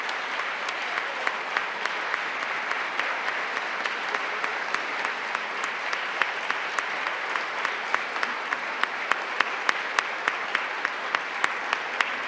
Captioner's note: applause